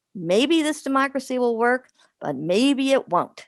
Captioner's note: none